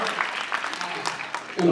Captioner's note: cheers, applauds